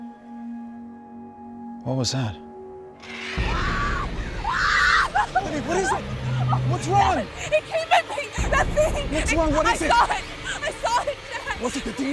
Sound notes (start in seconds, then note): 3.1 screaming